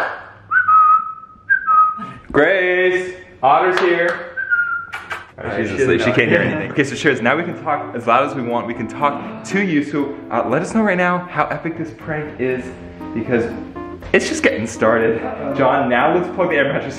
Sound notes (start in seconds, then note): 0.0 claps; 0.4 whistles; 4.3 whistles; 4.5 kissing noises